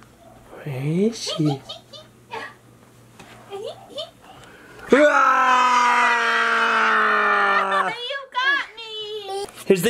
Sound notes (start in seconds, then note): 1.5 tittering; 4.9 screeching